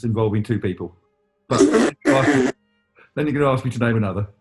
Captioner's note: splutters